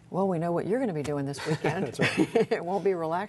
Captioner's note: laughter